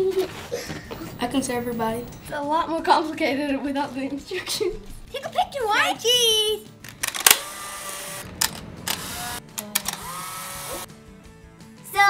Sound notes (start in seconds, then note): 0.0 giggling; 6.9 camera clicks